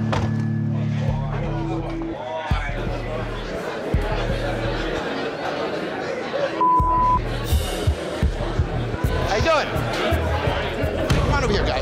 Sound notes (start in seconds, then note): 2.2 suspenseful music; 6.6 beep